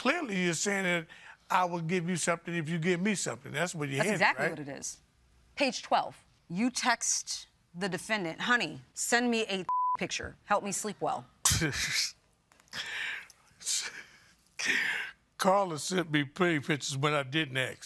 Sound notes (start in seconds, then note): 11.5 scoffs, chuckles